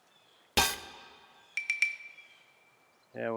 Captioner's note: gunshot